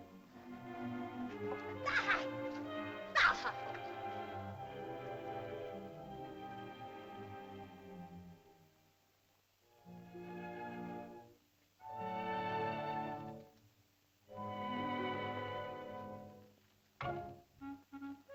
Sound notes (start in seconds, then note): 3.1 woman cries out; 4.9 ominous music; 10.0 soft music; 17.0 whimsical music